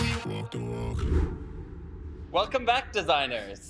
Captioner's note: image whooshes